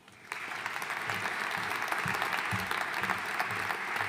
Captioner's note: audience applauding